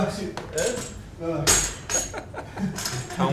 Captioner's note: laughter